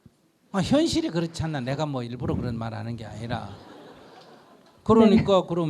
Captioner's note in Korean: 청중 웃음